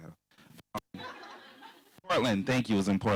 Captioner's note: laughter